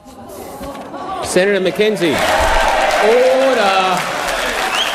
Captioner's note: crowd yelling